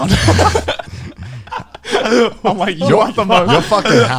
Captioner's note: men laughs